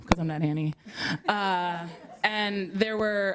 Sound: laughter

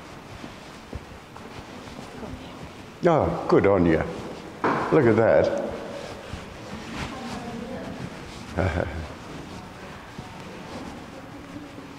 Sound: murmuring

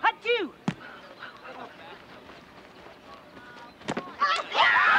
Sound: woman cheering

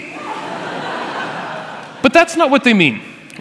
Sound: laughter

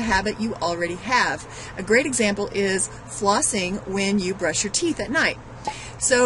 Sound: pop

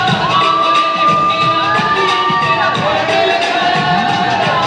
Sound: cheers

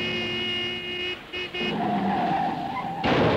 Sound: horn blares

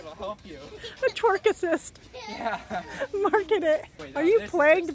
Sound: laughing

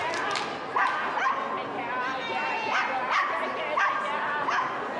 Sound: Team Japan clapping and chanting; dog continues barking

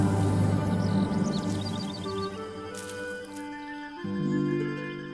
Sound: SFX: birds chirping

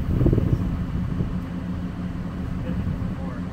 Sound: engine running

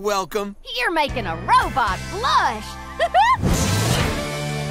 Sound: giggling

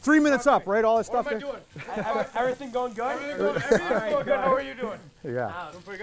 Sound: laughing

